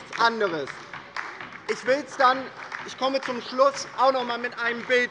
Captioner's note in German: Beifall bei der LINKEN